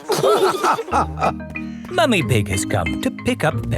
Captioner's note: all laughing